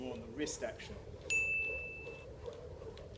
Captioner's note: ding!!!